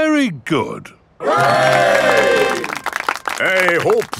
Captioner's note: clapping